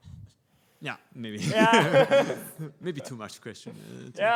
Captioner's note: laughing; laughs